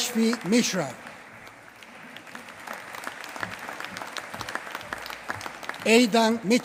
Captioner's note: applause